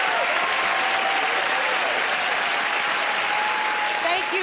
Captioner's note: cheering and applause